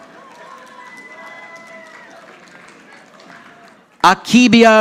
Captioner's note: audience applauding